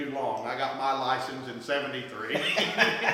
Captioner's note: laughs